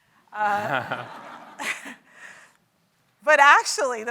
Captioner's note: audience laughs